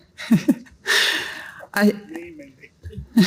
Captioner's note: laughs